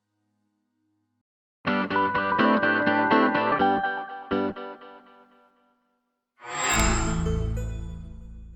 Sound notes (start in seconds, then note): 1.8 upbeat music playing; 6.5 microsoft sound